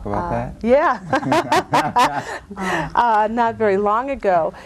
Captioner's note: laugh